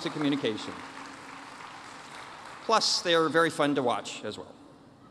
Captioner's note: applause